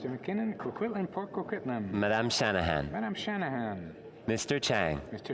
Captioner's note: speaking French